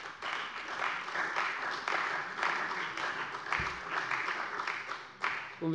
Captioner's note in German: Beifall bei der CDU und dem BÜNDNIS 90/DIE GRÜNEN